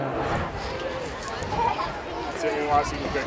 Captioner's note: students laughs